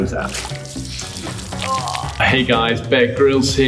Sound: water squishing and Grylls groaning

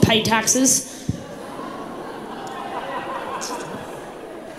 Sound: crowd laughs

